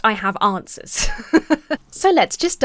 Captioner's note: chuckles